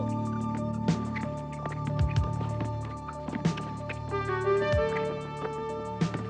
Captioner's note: shoes squeaking; tense music; shoes squeaking; ball bouncing